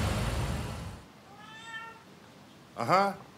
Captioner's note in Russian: Кошачье мяуканье